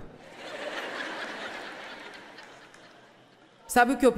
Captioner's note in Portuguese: público rindo